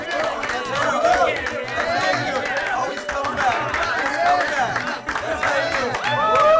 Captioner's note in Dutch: clapping and cheering